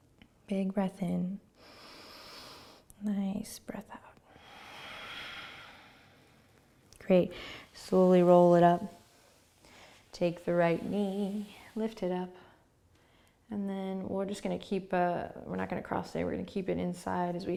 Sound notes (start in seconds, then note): 1.6 inhaling; 4.1 exhaling